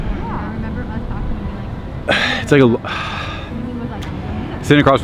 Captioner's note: background chatter